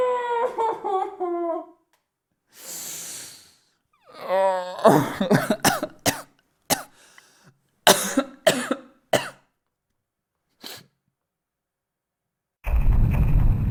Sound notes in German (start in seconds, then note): 0.1 Verzweifeltes Gejammer; 4.6 Erschöpftes Husten